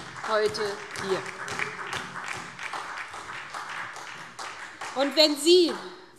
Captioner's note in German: Beifall SPD und vereinzelt DIE LINKE